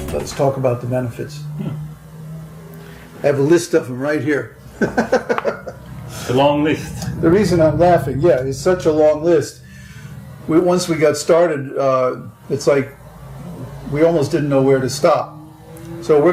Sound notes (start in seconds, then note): 4.6 laughs